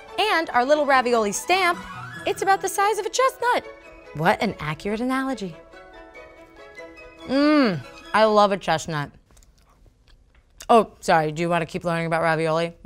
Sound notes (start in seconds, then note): 7.2 hums in delight